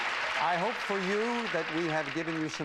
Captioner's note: audience applauding